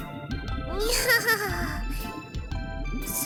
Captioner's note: awkward laugh